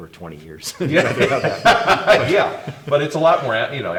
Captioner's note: both laughing